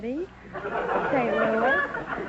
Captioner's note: audience laughter